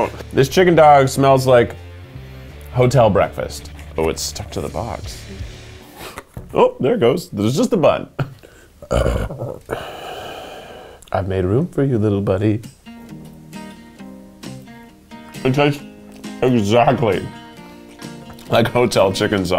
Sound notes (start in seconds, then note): 8.8 burps; 12.4 lighthearted music